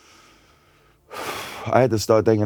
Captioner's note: exhales